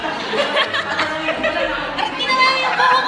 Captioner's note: laughter